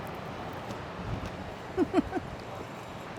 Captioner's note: laughs